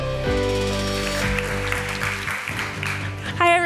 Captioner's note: applause